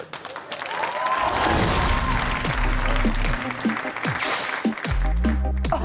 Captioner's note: audience cheers; upbeat music plays